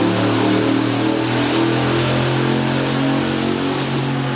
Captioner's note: car engine revving